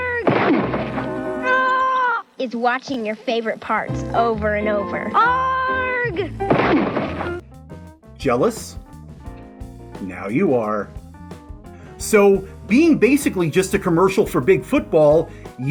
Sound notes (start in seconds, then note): 0.2 crash!; 6.5 crash!